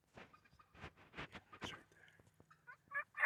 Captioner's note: turkeys squawking